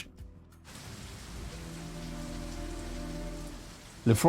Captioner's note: raining